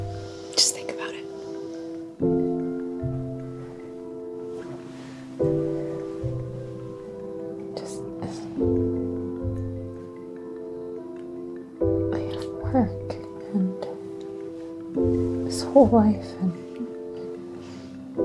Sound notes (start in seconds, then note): 8.0 whispering